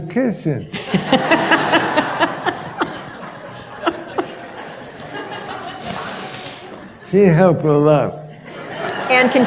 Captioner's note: laughter